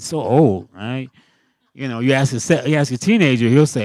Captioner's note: laughing